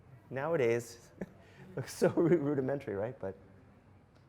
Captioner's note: laughs